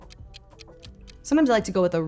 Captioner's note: timer ticking